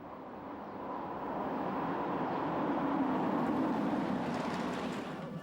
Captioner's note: car engines whirring